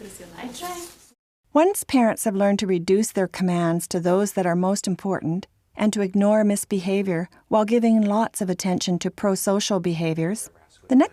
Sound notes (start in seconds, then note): 1.7 voiceover